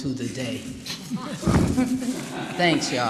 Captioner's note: laughter